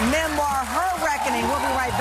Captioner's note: audience cheering